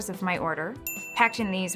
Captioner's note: ding!